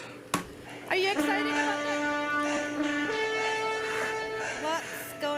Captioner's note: horns